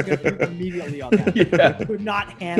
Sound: laugh

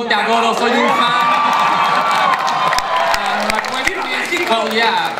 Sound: speaks Spanish; audience cheering

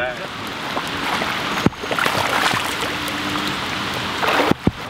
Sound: water splashing

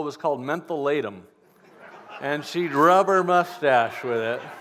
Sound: laughter

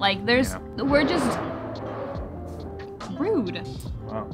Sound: tires screech

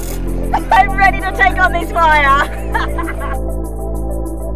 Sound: laughs

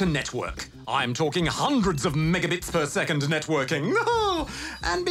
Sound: laughs

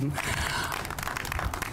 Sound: applause

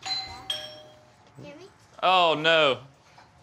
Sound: doorbell rings

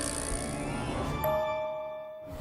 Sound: dinging

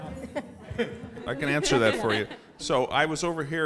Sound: laugh

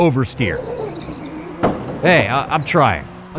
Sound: tires squeal

